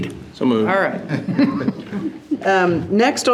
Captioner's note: trustees laughing